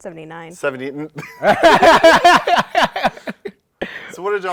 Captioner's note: laughter